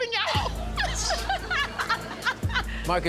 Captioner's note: laughter